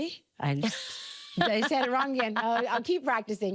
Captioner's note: laughing